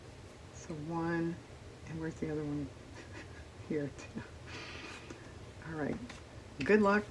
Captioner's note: laughs